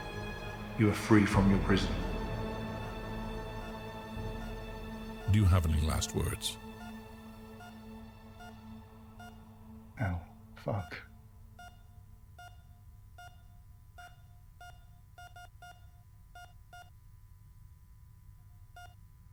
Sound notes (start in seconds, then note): 14.5 heartbeat machine beeping